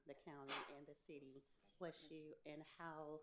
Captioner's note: attendee sneezes